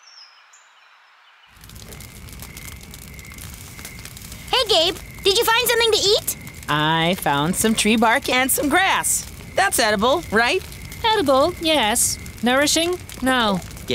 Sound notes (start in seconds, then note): 1.5 fire crackling; 1.5 insects chirping